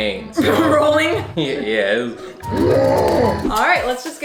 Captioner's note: groans